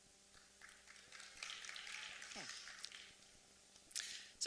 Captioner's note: applause